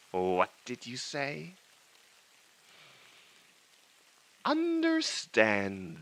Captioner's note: static hiss